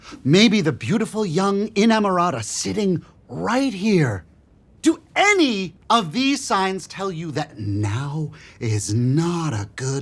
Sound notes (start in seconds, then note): none